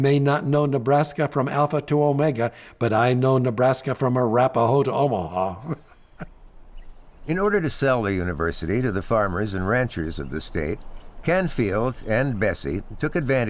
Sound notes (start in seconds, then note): 6.5 laughing; 7.1 nature sounds